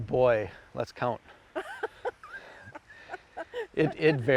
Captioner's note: laughing